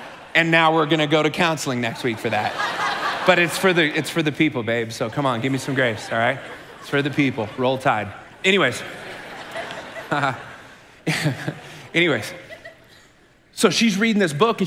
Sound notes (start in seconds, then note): 0.0 congregation laughing; 8.8 chuckles